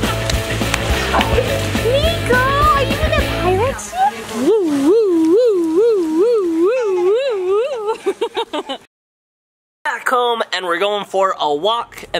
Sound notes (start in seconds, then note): 1.0 laughs; 4.9 imitates siren; 8.3 laughs